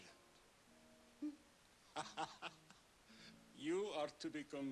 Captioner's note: laughs